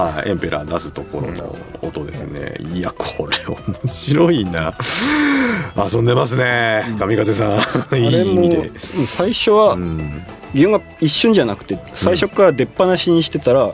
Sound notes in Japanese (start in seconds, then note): 0.0 笑い; 4.8 息をのむ音